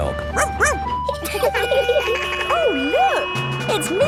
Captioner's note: laughing; barks; sirens sounding